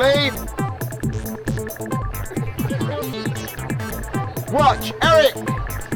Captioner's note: audience laughing